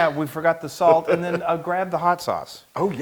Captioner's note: laugh